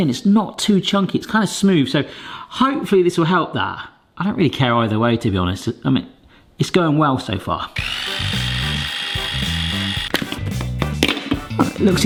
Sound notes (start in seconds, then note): 7.7 mixer whirring; 7.8 cheerful music; 10.2 parts tapping